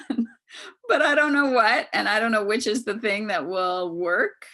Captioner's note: laughs